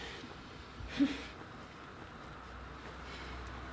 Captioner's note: polite laughter